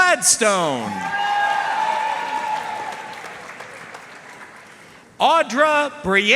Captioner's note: audience cheering and applauding